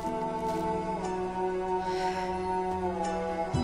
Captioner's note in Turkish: İç Çekme Sesi